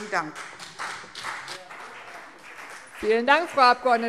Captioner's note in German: Beifall CDU und vereinzelt BÜNDNIS 90/DIE GRÜNEN